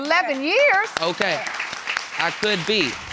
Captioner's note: audience applauding